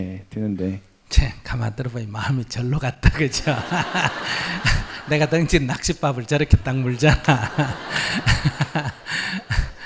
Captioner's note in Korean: 청중 웃음